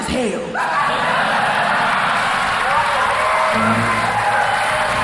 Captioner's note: crowd cheering